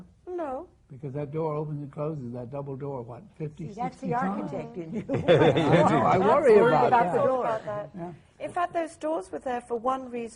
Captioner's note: laughing